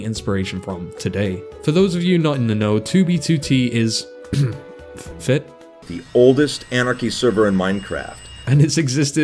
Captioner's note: cough